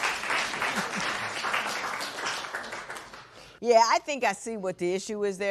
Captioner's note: applause